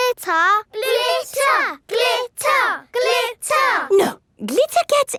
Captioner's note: chanting